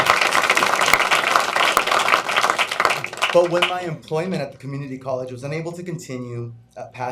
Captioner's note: applause